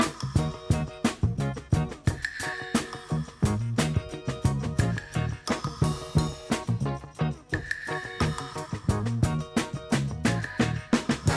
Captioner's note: upbeat music; engine revving